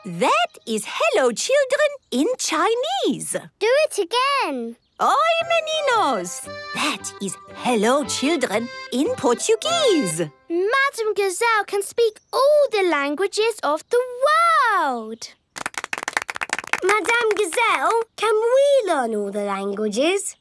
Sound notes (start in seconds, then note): 4.9 speaking Portuguese